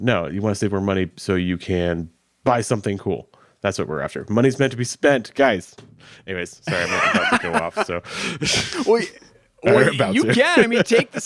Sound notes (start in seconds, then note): 6.6 laughing; 10.0 chuckles